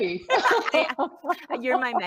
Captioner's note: laughs